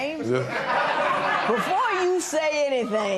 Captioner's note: laughter